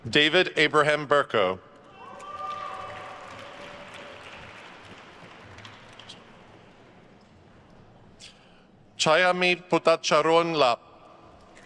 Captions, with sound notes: David Abraham Berko. (attendees cheering and applauding) Chayamai Bhuttacharoenlap.